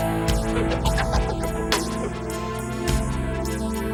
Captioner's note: suspenseful music; laughing